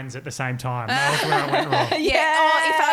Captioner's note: background noise drains out speaker